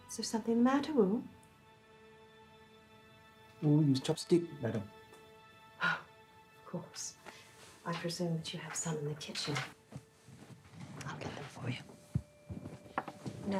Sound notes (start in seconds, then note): 5.2 somber music; 6.2 sighs